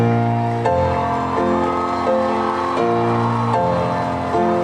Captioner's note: thunderous applauding